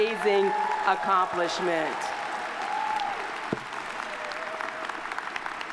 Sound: audience applauding

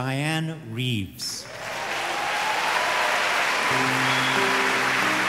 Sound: audience applauding; soft piano music

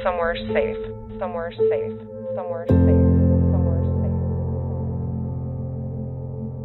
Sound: echo

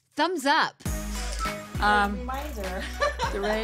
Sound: phone beeps

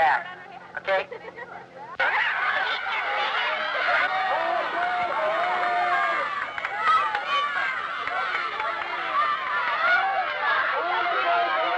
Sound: man speaking through a megaphone; crowds cheering

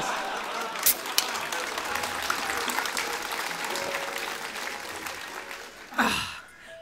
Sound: laughter, applause

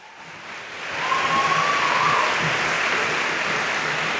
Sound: audience applauds

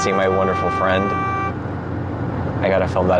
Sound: obnoxious car honk sound

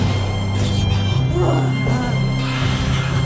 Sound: Daniel exhaling; Kevin exhaling; Susan grunting; Kevin exhaling; exhaling

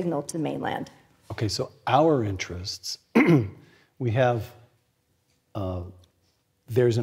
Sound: cough

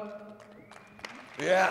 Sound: applause

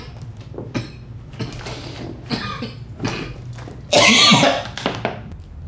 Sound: coughing

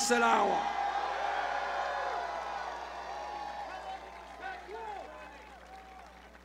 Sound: cheers

